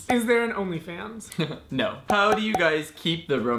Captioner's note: giggles